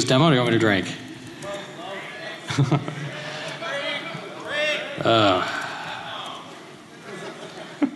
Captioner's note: laughter